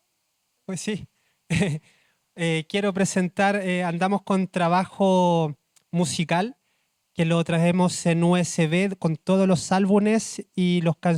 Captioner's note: speaking Spanish